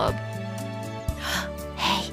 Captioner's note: mother gasps